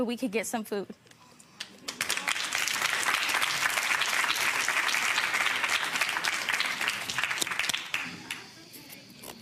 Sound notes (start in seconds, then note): 1.8 audience applauding